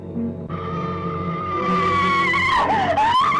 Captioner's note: screams